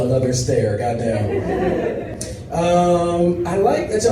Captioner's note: audience laughs